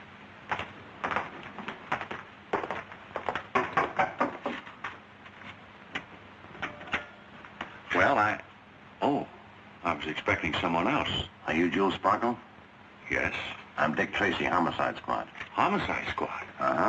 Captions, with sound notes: (knocking) Well, I, oh. I was expecting someone else. Are you Jules Sparkle? Yes. I'm Dick Tracy, Homicide Squad. Homicide Squad? Uh-huh.